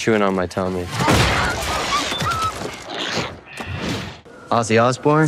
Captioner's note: weapon thuds; bat whimpers